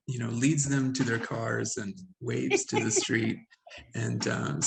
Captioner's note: Sandra laughing